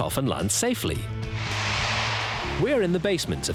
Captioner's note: air whooshes